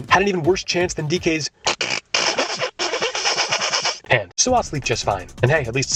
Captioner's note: snickering